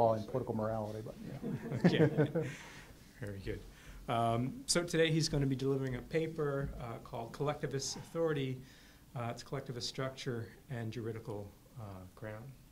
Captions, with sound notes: and Political Morality, but you know. (all laugh) - [Voiceover] Very good. So today he's gonna be delivering a paper called Collectivist Authority, Collectivist Structure, and Juridical Ground.